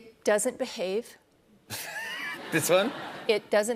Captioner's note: laughter